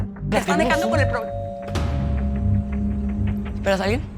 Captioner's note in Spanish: Timbre de la puerta